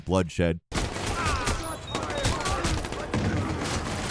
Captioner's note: guns firing